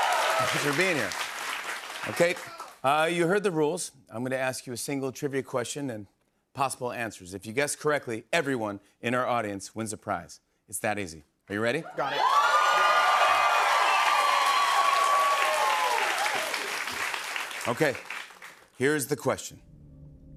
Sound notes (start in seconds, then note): 11.9 cheers and applause